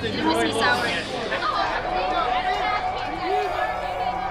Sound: people jeering

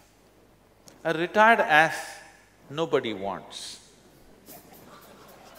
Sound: laughter

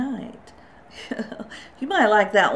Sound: chuckles

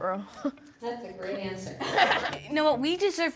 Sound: everyone laughs

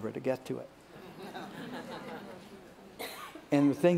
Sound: laughter

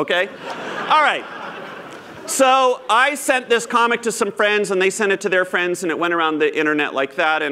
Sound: laughter

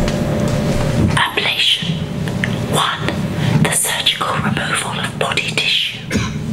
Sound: whispered voiceover

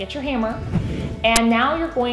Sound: swooshing

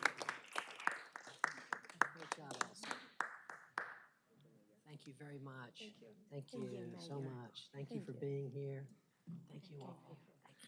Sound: applause

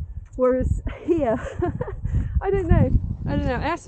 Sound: laughs

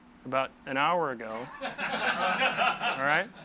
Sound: men laugh

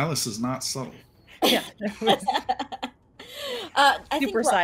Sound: laughs

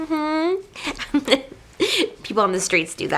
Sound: giggle

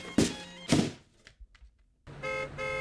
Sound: thud; car horn

